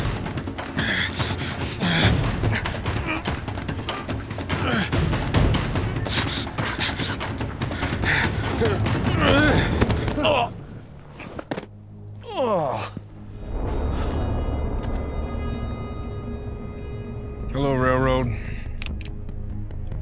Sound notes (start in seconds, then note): 0.0 dramatic music; 2.0 both grunting, grappling; 8.8 thud, groans; 12.2 groaning; 14.0 footsteps; 18.7 cocks gun